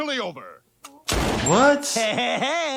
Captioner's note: gun firing